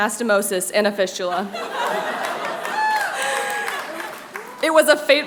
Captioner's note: laughter